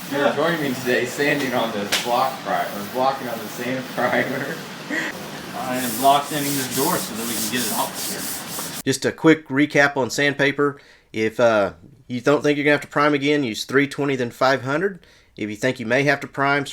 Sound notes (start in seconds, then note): 4.2 chuckles; 5.1 sanding